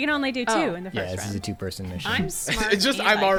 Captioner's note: pat